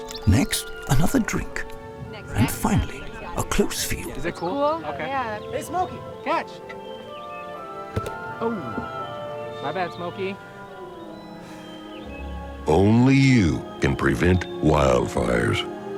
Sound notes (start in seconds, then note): 7.9 frisbee thudding; 11.4 sighing